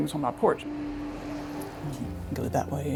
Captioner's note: car swooshes